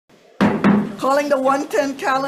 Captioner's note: gavel banging